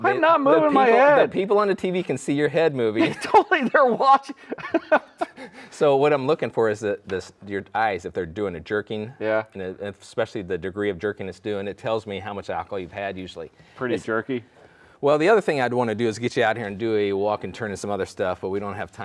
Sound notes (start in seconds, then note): 5.6 laughing